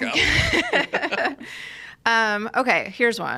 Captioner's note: laugh